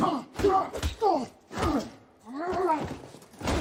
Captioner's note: grunting